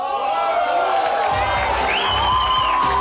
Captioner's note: audience cheers; chill jazz music